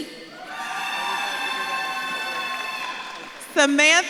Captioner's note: audience claps and cheers